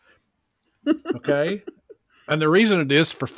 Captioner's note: laughs